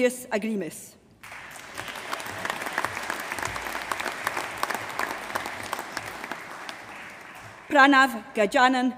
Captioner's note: applause